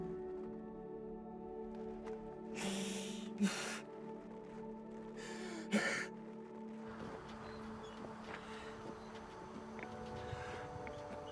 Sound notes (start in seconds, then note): 2.9 Mark crying; 7.0 gentle music